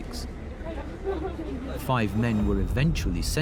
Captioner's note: people chatter indistinctly; soft tense music